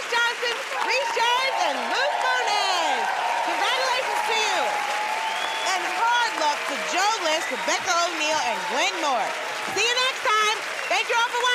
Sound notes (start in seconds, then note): 4.0 cheering and applause; 5.1 whistling